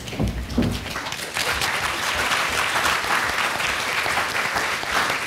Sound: applause

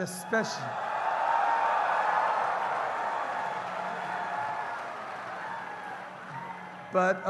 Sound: wild cheers & applause

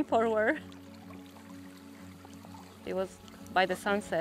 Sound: water trickles

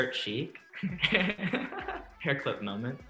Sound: laughs

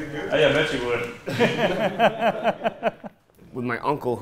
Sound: people laughing

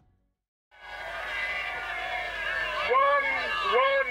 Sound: audience yelling

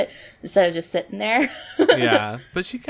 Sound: laughs

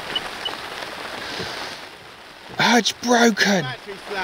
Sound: jet ski beeping

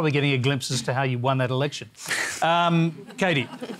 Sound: laughter

